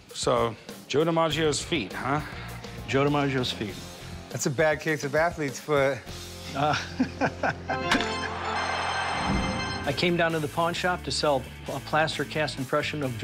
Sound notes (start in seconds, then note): 6.6 laughing